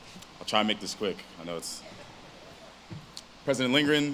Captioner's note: audience laughs